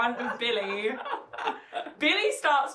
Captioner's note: laughs